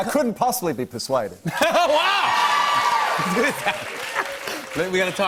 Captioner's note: cheers and applause